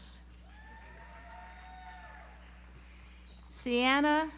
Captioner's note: audience applauds